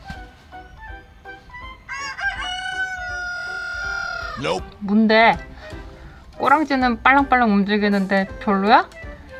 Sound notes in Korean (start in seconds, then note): 1.8 닭 울음소리